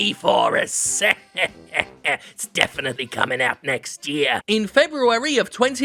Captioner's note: laughs